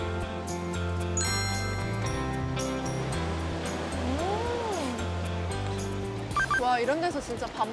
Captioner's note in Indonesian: Dan gelombang mengisi audio latar